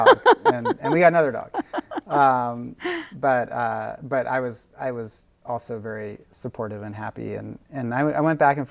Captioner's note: laughs; laughing; both laughing